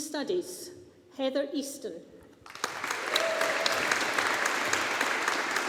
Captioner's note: audience applauding